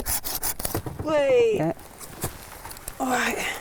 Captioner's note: blade saws